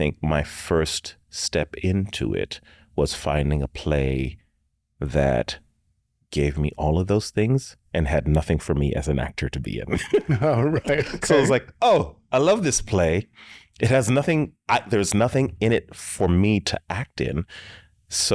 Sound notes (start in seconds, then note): 9.9 chuckles